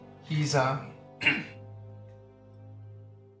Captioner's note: coughs